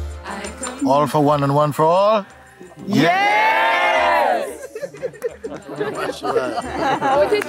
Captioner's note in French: rires